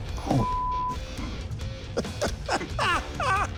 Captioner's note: chuckles